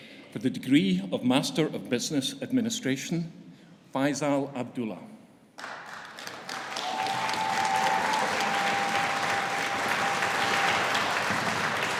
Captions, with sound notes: For the degree of Master of Business Administration; Faizal Abdullah. (AUDIENCE CHEERING) (AUDIENCE APPLAUDING)